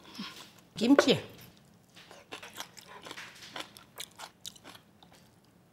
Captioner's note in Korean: 사각사각 씹는 소리